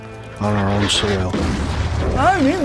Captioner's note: explosion booming